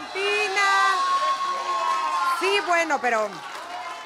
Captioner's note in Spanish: Gritos